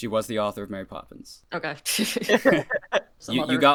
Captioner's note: laughter